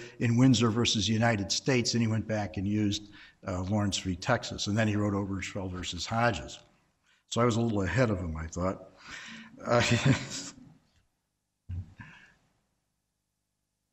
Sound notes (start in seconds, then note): 9.6 chuckles